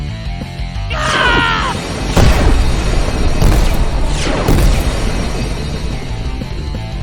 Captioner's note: explosions booming; woman shouting